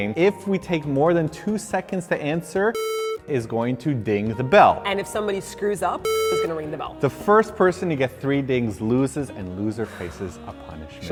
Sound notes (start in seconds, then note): 2.7 beep; 6.0 beep